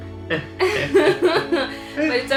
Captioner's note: laughs